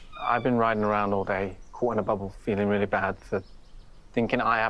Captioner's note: none